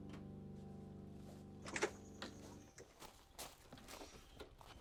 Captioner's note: car door opens